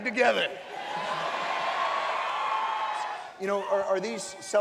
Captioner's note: cheering and laughter